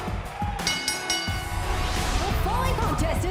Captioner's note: bell